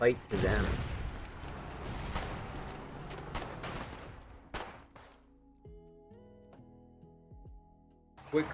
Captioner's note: slowed gunfire, with the slow rumble of decay